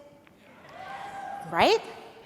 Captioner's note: audience cheers